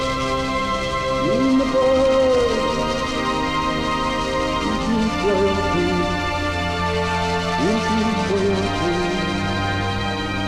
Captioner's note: chanting